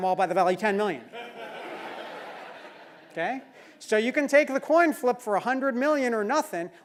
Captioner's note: laugh